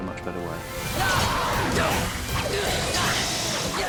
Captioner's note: harry grunting